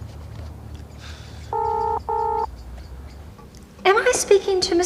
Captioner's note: phone ringing